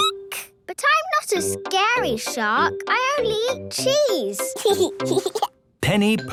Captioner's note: squeaking; giggling